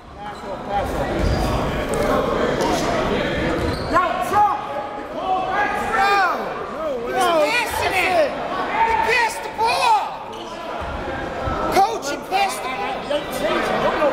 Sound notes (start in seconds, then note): 2.2 referees and players chattering